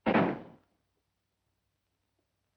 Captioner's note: door closing